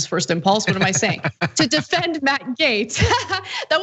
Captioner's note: laugh